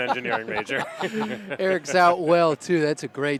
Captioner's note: laughter